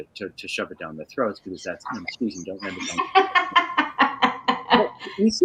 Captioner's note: laughing